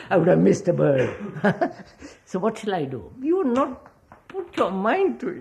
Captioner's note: laughs